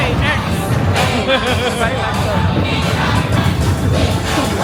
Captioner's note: laughing